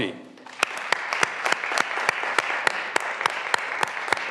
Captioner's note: graduands applauding